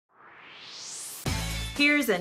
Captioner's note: swoosh